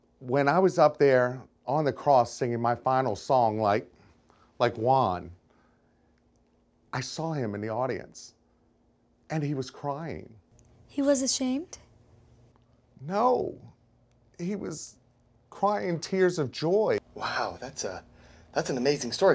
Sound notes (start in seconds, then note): none